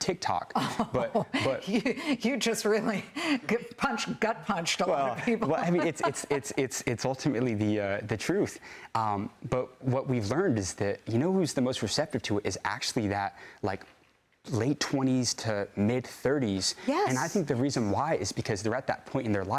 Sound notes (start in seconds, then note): 5.2 laughter